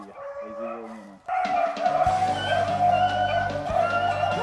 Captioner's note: howling dogs